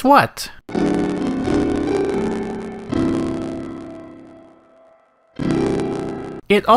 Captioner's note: distorted crackling Cyan logo audio